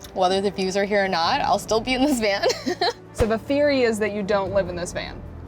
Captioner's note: laughs